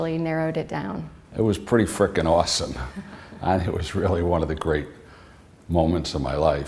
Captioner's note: chuckle